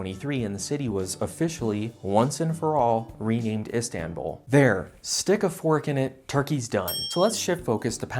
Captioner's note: ding